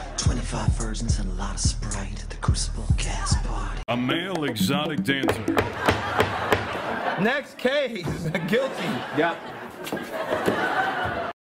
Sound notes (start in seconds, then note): 4.4 gavel bangs